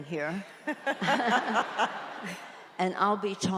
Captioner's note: audience laughs